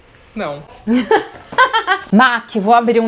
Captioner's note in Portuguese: risos